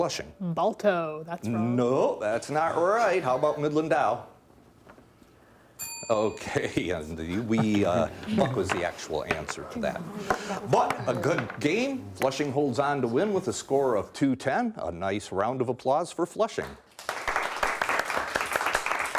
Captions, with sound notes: Lily, Flushing. - Balto, that's wrong. - No, that's not right. (laughing) How 'bout Midland Dow? (bell dinging) Okay, Buck was the actual answer of that. (whispering) But a good game. Flushing holds on to win with a score of 210. A nice round of applause for Flushing. (clapping)